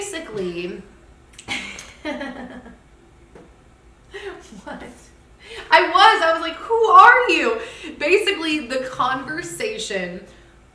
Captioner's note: laughter